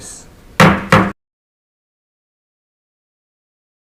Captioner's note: mallet thudding